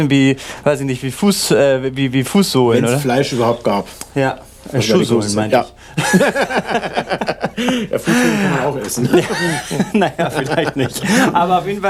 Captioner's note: laughter